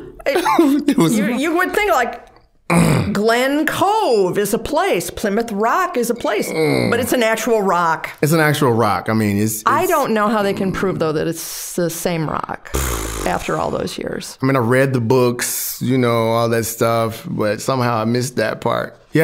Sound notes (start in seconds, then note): 0.0 laughing; 6.2 groaning